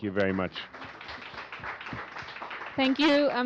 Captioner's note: applause